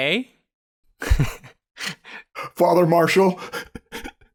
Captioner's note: chuckles